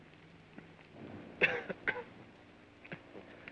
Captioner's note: coughs